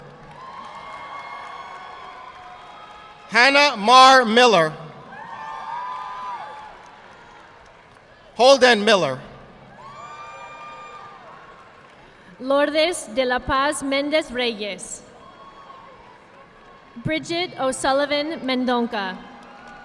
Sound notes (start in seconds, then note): 0.0 audience applauding; 11.0 audience applauding; 15.4 audience clapping